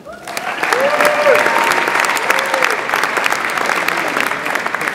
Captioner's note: audience applauds and cheers